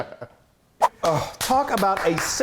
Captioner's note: swooping sound; clapping